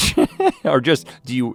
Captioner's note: Rhett chuckles